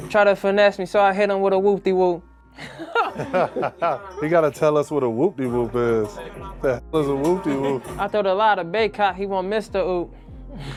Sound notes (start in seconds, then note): 2.6 group chuckling